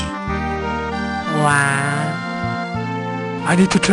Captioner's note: wahs romantically